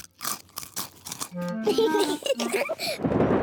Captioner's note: both giggle; thunder rumbling